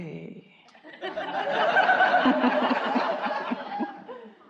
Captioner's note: audience laughing